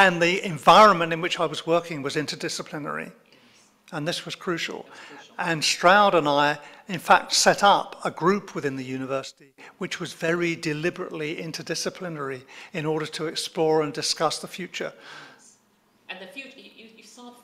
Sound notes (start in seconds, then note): none